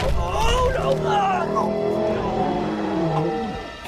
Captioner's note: bucky groaning